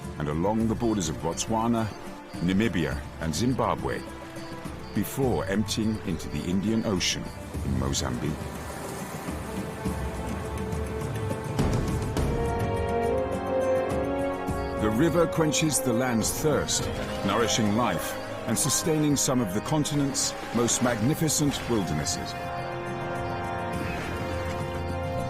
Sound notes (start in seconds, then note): 8.9 uplifting music; 8.9 waves crashing; 23.4 uplifting music